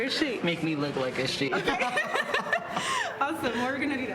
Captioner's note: laughs